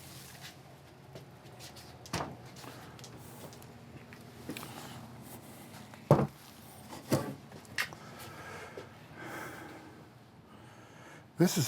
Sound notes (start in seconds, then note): 2.2 plastic wrap rustling